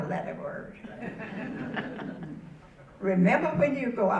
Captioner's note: audience laughing